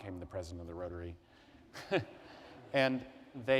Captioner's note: laughter